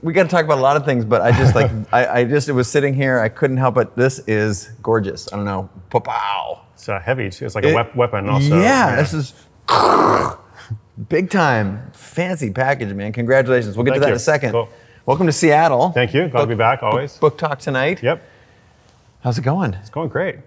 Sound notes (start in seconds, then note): 10.0 makes crashing noise